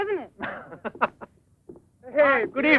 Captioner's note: laughing